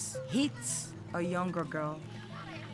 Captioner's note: indistinct chatter